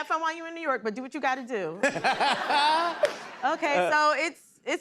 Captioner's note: laughter